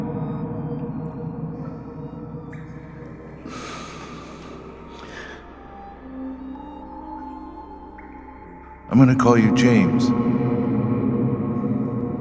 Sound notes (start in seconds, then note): 3.4 deep breath